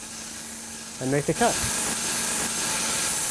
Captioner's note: saw whirring